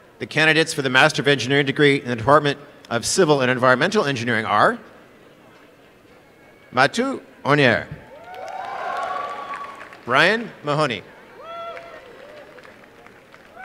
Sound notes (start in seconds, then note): 8.1 applause and cheering; 11.4 applause